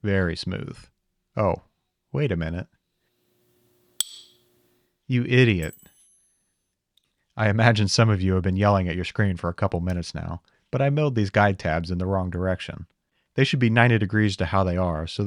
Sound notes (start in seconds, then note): 3.9 part clattering; 4.0 metal part clanking